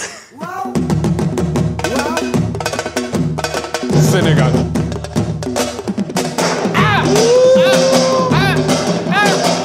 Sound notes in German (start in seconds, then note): 1.3 Dynamische Trommelmusik; 6.8 Jubelruf